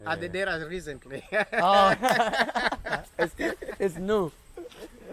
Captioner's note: laughter